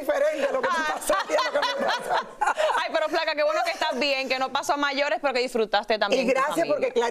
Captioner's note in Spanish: risas